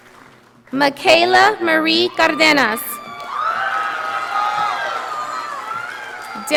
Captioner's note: audience applauding